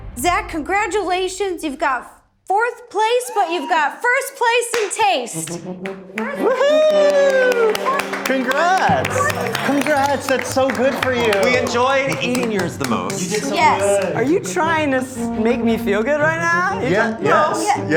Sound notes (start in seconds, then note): 5.1 group clapping